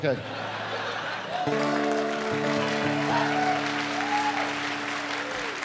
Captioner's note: cheering and applause